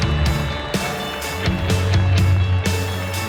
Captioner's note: cheers and applause